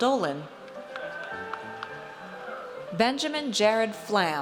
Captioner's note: audience cheers